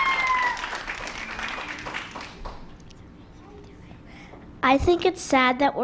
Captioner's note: applause